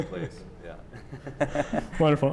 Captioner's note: laughter